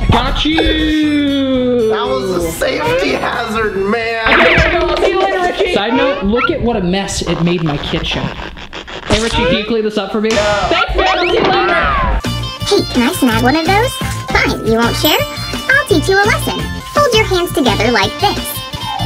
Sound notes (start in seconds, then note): 13.2 funny voice